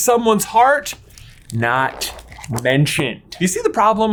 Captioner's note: pages fluttering